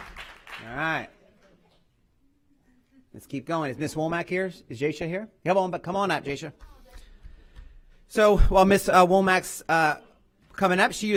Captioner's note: applause